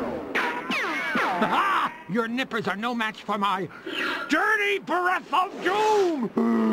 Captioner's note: laughs